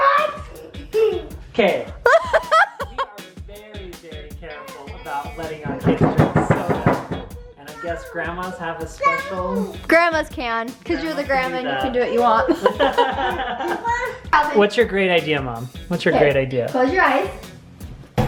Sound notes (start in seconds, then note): 12.0 laughing